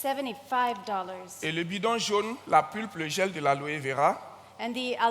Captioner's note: continues in French